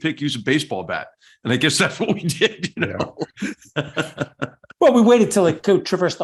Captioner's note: laugh